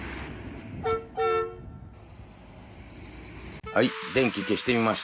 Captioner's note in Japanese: バスのクラクション音